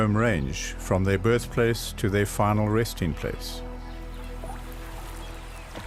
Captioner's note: animals calling